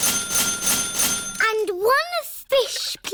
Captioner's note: dinging